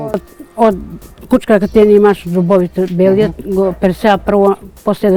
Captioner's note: indistinct chatter